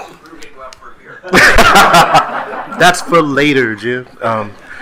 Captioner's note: speaker speaking faintly